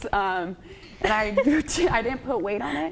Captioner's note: laughs